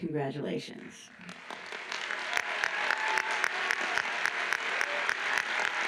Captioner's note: audience applauds